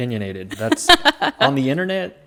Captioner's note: laughs